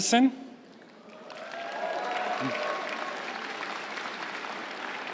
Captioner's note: crowd cheering and applauding